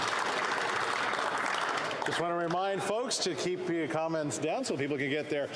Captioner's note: some Applause